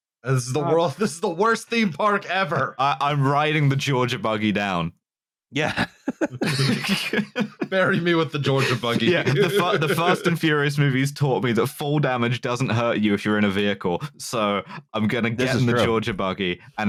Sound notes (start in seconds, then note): 5.6 laughs; 5.6 laughter